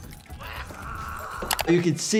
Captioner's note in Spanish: personaje gimiendo